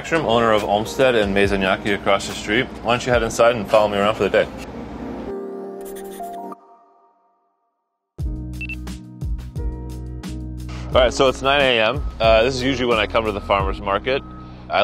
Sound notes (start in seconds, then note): 8.6 timer beeps